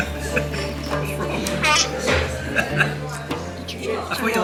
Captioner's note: laughs; gags